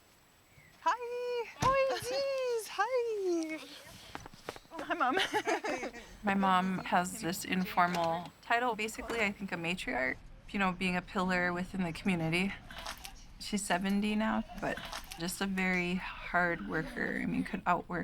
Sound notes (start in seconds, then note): 4.8 laughing